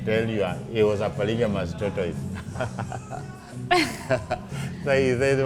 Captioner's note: chuckles